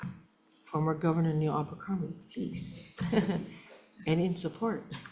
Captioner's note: laughs